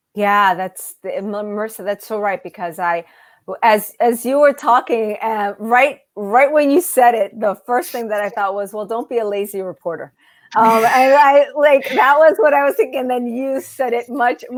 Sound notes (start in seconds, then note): 10.5 laughs